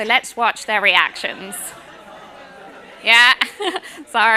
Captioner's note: laughter